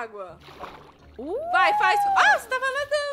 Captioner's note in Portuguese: barulho de água